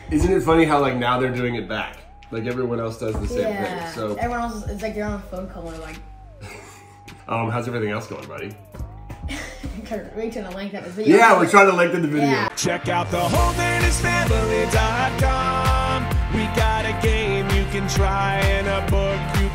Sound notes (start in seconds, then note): 9.0 laughs